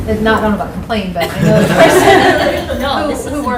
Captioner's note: laughter